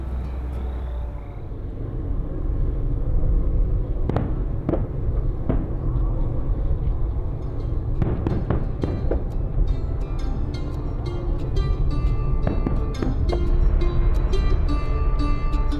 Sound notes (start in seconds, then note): 4.0 fireworks crackling; 12.7 banjo music plays